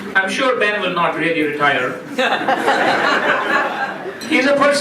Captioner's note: laughing